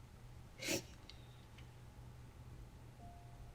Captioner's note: sniffles